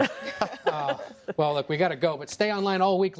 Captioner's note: laughing